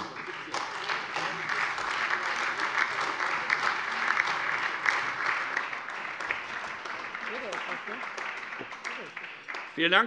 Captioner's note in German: Beifall Freie Demokraten, SPD, AfD und DIE LINKE